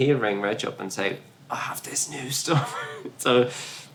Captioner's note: laughs